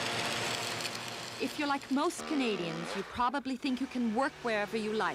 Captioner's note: crackling